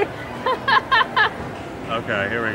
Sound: laughing

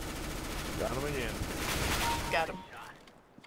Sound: firing

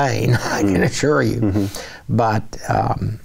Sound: laughing

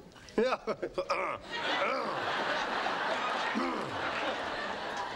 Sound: clearing throat

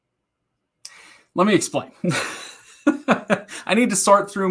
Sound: laughing

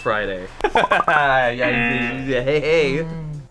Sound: laughs; buzzer

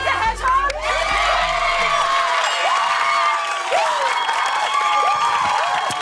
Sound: cheers and applause

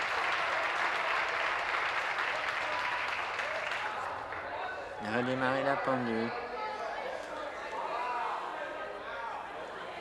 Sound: continued applause; conversation din

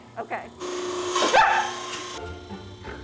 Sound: yelps

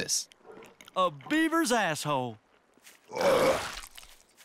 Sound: vomits; water splashes

